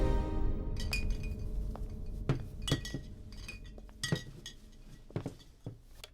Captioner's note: wine Bottles Clinking